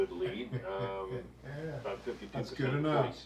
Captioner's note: chuckles